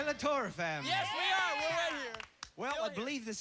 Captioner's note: cheering